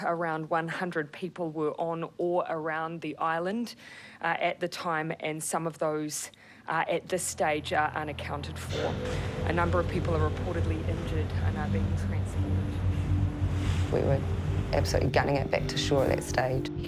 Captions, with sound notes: around 100 people were on or around the island at the time. And some of those are, at this stage, are unaccounted for. A number of people are reportedly injured and are being transported- (intense music) (waves crash) - We were absolutely gunning it back to shore at that stage.